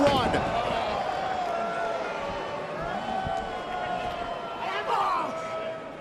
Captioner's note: crowd chatter